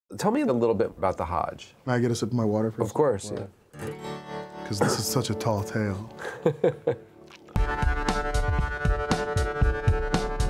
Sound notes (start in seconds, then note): 6.1 director laughs